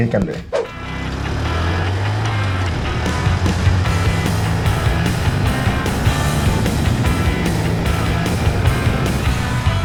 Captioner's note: engine revving